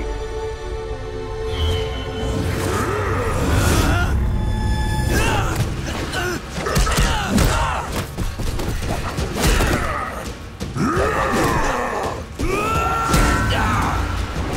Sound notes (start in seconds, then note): 2.1 grunting; 9.0 grunting